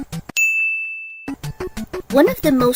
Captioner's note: ding